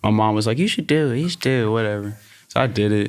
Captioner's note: chuckles